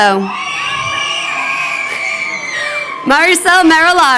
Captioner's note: crowd cheering